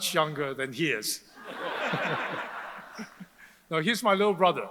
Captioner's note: audience laughs